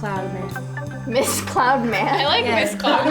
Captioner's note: laughs